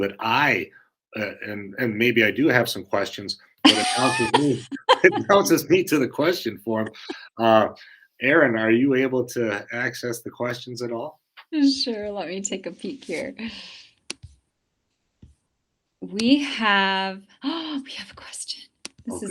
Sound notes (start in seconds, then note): 3.6 laughter